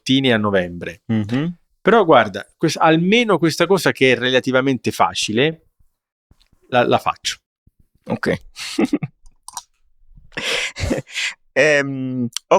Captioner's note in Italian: risate